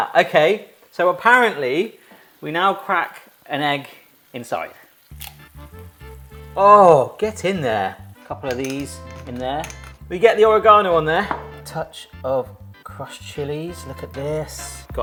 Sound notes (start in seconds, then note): 5.0 egg cracking; 7.2 grinder clinking